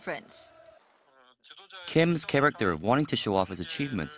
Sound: Korean

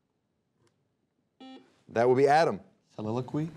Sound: buzzer beeping

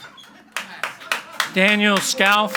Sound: audience applauds quietly

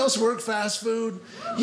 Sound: audience cheering

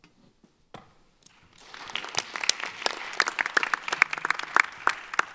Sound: audience applauding

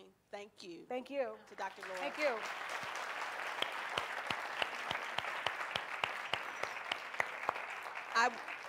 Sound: audience applause

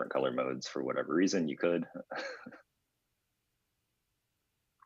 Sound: laughs

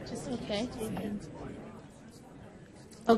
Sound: voiceover

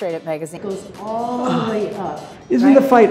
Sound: Tony groans

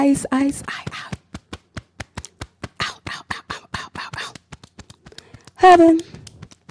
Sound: beating Chest

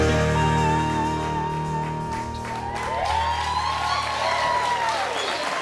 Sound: cheers and applause

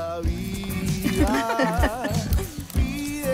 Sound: laugh

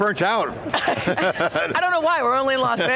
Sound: everyone laughing

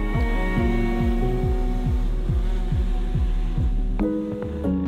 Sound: drone whirring

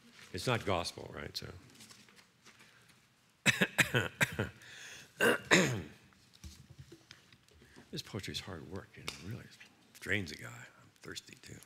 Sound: coughs

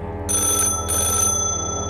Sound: phone ringing

